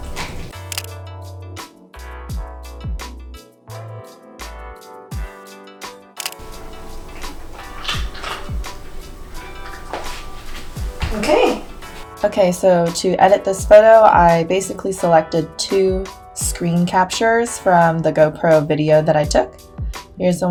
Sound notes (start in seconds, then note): 0.0 Kokoro crunches; 0.0 upbeat music; 6.2 camera snaps; 6.4 Chibi crunches